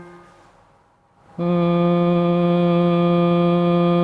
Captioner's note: strikes piano key; hums